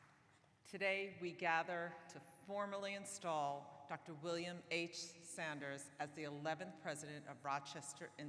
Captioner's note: applause